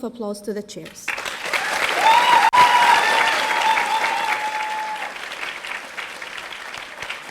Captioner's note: audience applauding; audience cheering